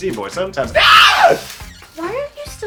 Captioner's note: laughs; pathetic Screeching